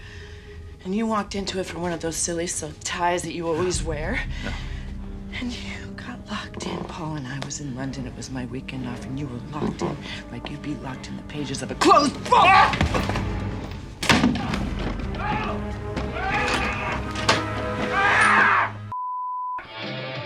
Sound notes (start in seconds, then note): 14.2 Paul screaming